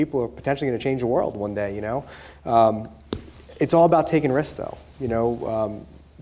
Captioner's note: none